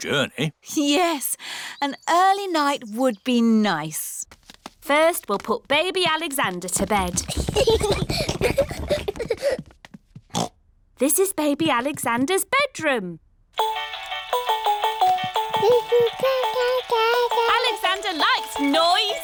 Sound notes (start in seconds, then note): 7.1 children giggling; 10.3 oinks; 13.6 mobile playing loud music; 15.6 cooing